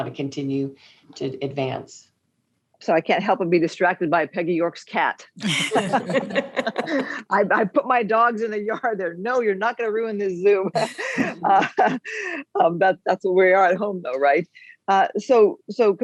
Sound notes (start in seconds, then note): 5.4 laughing